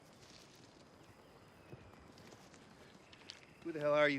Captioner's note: footstep